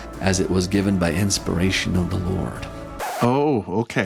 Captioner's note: record scratch, music ceases